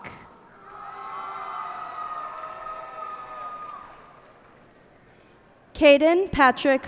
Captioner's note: cheers and applause